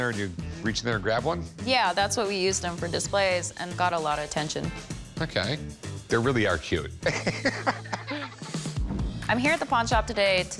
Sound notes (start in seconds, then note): 7.0 Rick chuckles